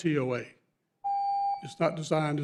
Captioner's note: beep